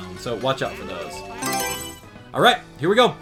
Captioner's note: Mario Selection Sound